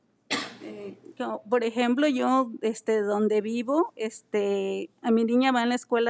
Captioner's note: speaking in foreign language